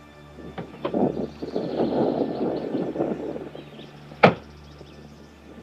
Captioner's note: heavy wind blowing; car doors banging